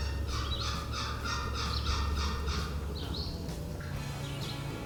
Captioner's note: upbeat music; turkey call clucking